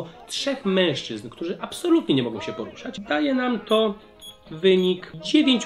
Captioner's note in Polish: dźwięki kalkulatora